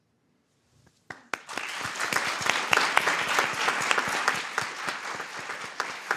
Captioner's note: applause